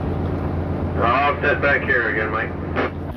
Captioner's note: intercom